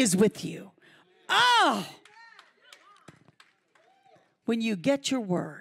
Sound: audience cheering

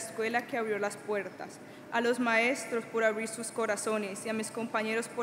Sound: speaking Spanish

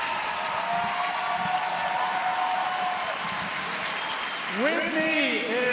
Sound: applause

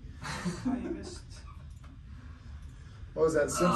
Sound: laughing

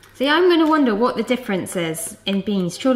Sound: none

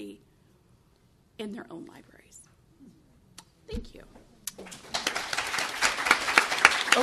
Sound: applause

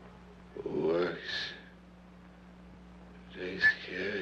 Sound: none

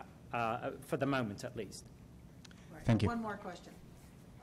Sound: voiceover

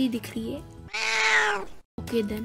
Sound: creepy meow

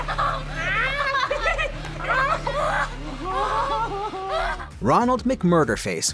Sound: laughing

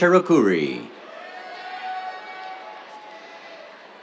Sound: cheers

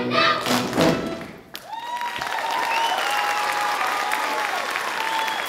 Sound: audience cheering

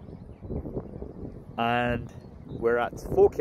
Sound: wind blowing

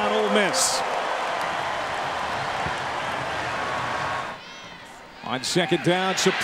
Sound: crowd cheering

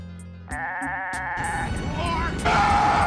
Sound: bleating

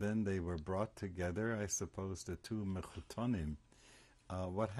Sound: hebrew

